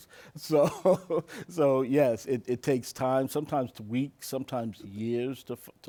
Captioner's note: laughs